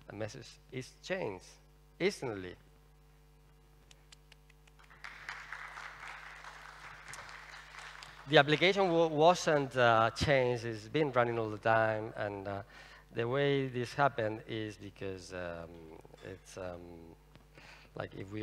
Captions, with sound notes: Our message is changed instantly. [imitates applause] [applause] The application wasn’t changed, it’s been running all the time. And the way this happened is because it’s… like if we